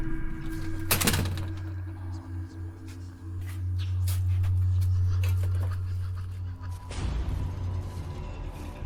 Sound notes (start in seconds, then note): 0.0 eerie dramatic music; 0.6 door thuds